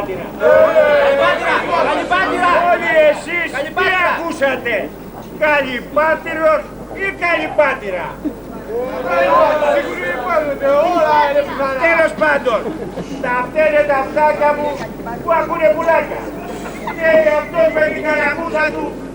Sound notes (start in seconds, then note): 8.6 Ακούγονται διχογνωμίες στο κοινό